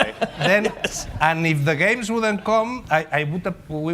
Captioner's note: laughter